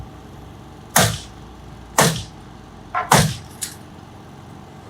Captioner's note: nail gun firing